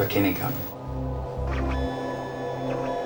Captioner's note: machine scanning